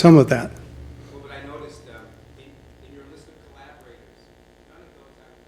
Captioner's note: voiceover